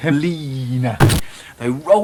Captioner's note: distorted THUNK sound